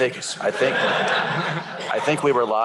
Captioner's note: laughter